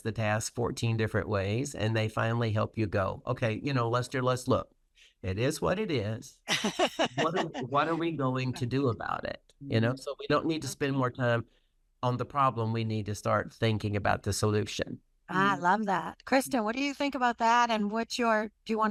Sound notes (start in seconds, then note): 6.5 laughs